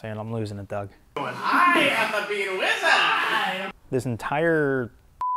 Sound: worker shouting

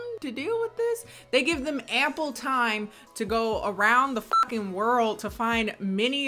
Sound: beep

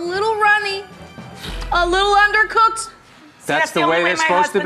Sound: blows slight raspberry

